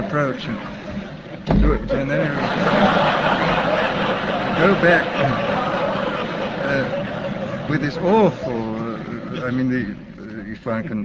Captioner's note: laughter